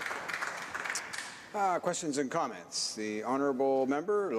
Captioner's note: some Applause